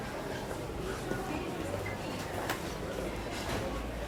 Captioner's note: background chatter